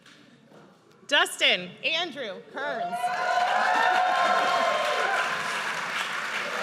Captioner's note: audience cheers